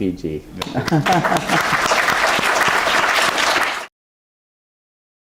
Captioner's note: applause